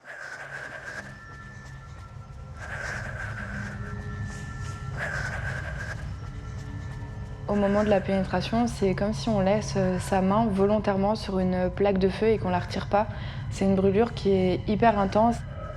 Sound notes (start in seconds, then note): 0.0 heavy breathing